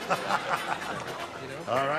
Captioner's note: laughing